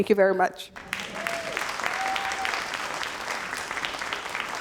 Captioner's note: crowd applauding